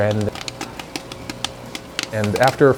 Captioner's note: popcorn popping